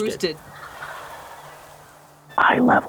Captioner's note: turkeys gobbling